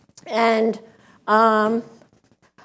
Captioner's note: none